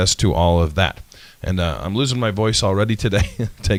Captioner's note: laughs